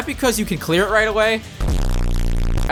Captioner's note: bass boosted audio